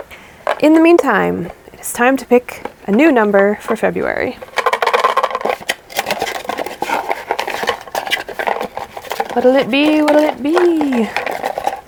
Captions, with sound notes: In the meantime, it is time to pick a new number for February. *rattles cards in box* *scuffle scuffle scuffle* What'll it be? What will it be?